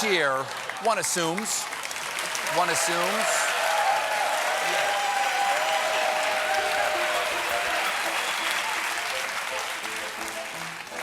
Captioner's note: applause